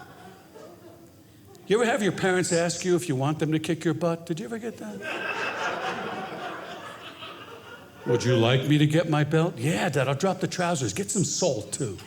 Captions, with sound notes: You ever have your parents ask you if you want them to kick your butt? Did you ever get that? (audience laughing) "Would you like me to get my belt?" Yeah, dad. I'll drop the trousers, get some salt too.